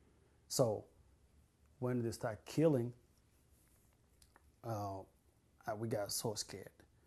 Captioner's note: pauses for 3 seconds